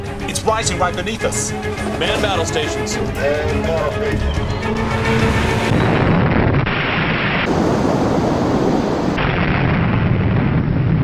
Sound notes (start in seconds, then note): 5.8 explosion booms